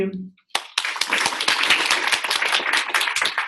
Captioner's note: applause